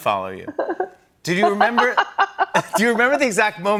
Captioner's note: laughs